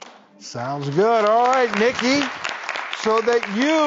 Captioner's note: audience clapping